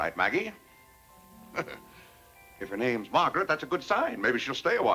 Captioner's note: chuckles